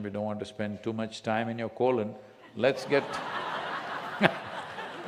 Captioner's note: laughter